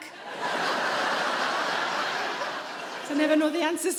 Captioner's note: audience laughing